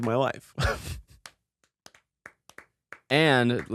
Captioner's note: both applaud